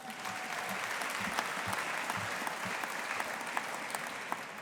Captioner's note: audience applauding